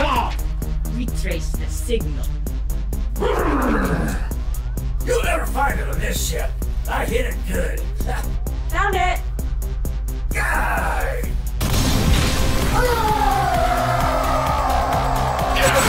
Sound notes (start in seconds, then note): 3.2 Auto grunting; 10.3 Max groans; 12.6 Trog thumps and yells